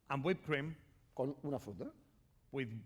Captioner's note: speaking spanish